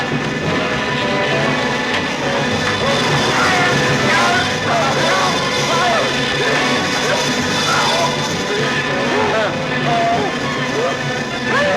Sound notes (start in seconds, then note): 3.6 yelling; 9.4 groaning